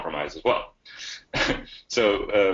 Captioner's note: chuckles